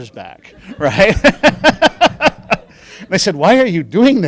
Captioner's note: laughing